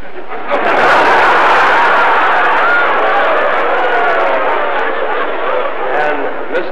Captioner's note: laughter